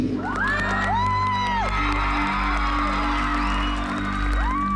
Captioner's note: cheering and applause